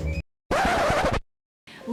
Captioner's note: record scratch